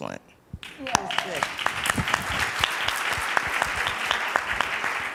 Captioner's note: audience applauding